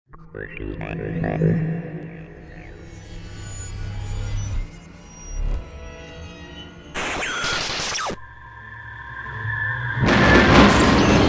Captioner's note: sound Effects